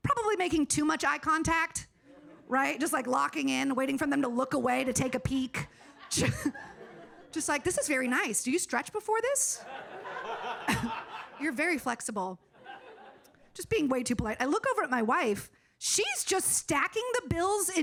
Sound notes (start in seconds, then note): 9.6 audience laughing